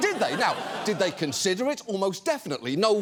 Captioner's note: studio audience laughing